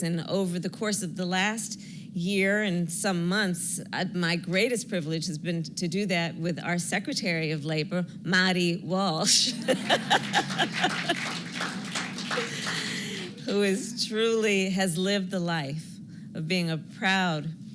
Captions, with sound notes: and over the course of the last year and some months, my greatest privilege has been to do that with our Secretary of Labor, Marty Walsh -- (laughter and applause) -- who is truly has lived the life of being a proud,